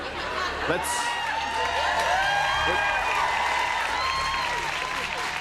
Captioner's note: laughter; cheers and applause